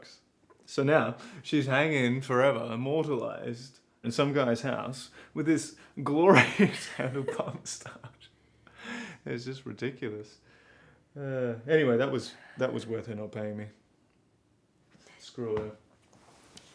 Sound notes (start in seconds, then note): 6.2 laughing